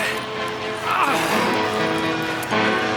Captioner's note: growl